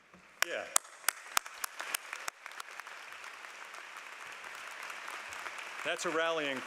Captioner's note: applause